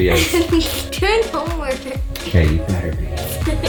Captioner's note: giggles